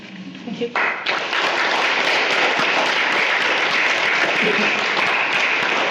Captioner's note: loud applause